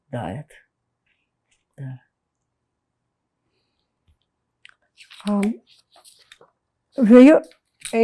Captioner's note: pauses 6 seconds